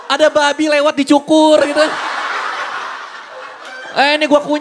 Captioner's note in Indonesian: Hahahahahaha